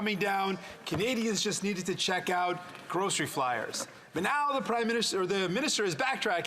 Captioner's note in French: voix de l'interprète